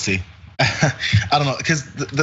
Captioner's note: laugh